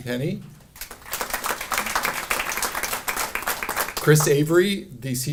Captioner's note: audience applauding